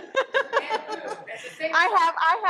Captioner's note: laughs